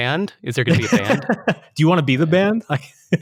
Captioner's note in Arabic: يضحك